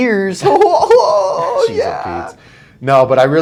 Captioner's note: laughing